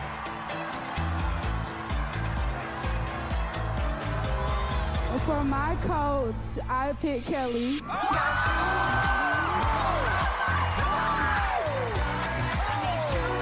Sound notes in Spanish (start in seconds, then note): 7.9 Grita